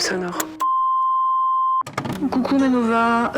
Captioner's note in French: Bip sonore